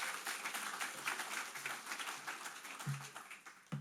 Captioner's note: applause